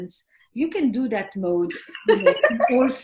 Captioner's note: laughs